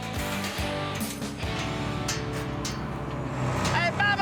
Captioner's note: motor engine approaching